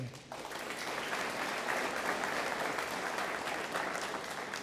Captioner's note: audience applauds